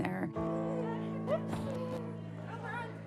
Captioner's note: excited chatter